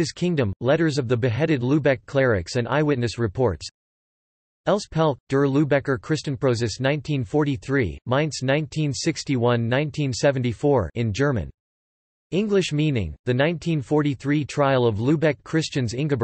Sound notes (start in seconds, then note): 0.0 in German; 10.2 in German